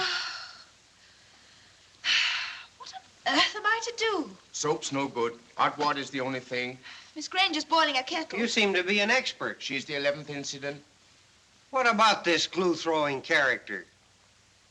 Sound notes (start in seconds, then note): 0.1 groans; 2.0 sighs